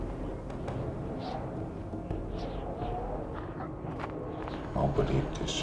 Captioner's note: wind blowing